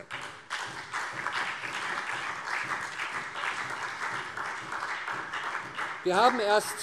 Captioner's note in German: Beifall SPD